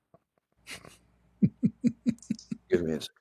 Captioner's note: Ketawa